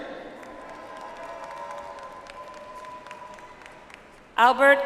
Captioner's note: audience applauds